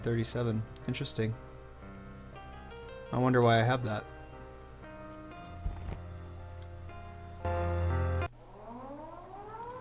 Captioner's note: siren sounds